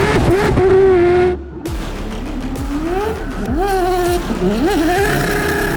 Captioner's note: race car revving continues